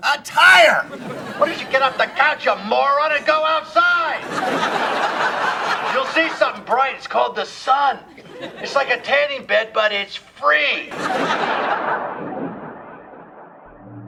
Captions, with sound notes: A tire! Why don't you get off the couch, you moron, and go outside? (audience laughing) You'll see something bright, it's called the sun. It's like a tanning bed, but it's free!